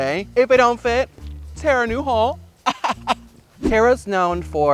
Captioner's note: giggles